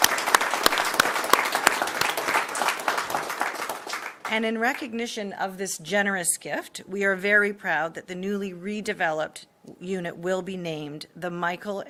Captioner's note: applause